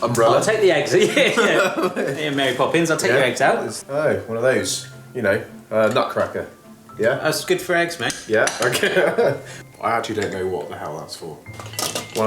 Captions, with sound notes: - Umbrella. - I'll take the eggs... (they laugh) Okay, Mary Poppins, I'll take your eggs out. - It's, I dunno, one of those, you know, a nutcracker? Yeah? - That's good for eggs, mate. - Yeah. Okay. (chuckles) I actually don't know what the hell that's for.